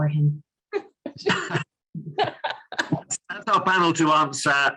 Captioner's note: all laughing